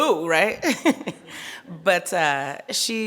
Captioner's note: laughing